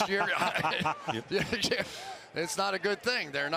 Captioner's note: laughter